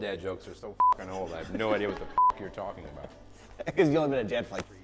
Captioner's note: beep